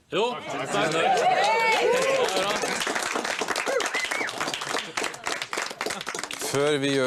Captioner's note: claps